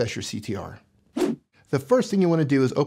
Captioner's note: whoosh